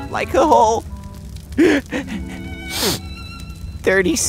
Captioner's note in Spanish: llora y se suena los mocos de nuevo